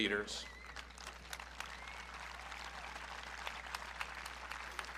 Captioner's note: audience clapping